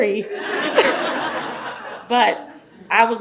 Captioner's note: audience laughs